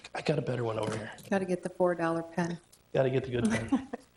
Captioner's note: chuckles